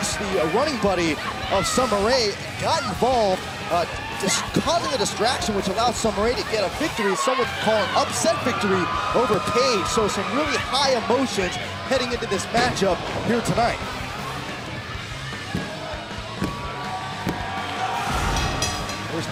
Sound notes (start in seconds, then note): 12.7 crowd cheering; 16.5 bell ringing